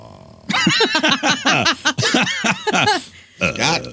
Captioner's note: laughing